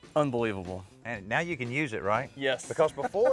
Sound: chuckles

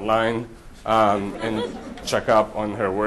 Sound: audience laughter

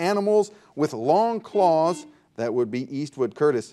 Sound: buzzer dings

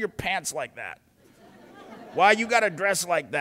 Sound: polite laughter

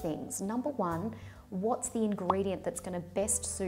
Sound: popping

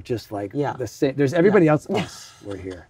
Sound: laughs

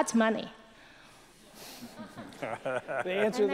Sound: laughter

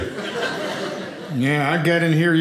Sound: audience laughing

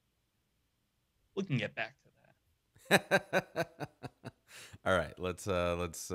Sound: laughing

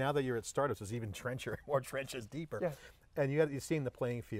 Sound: laughs

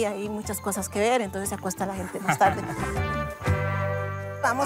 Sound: laughs

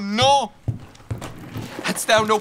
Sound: drawer opening

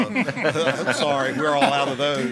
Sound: board members chuckle

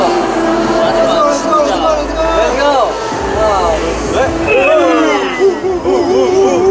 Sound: shouting fighting for the last concert

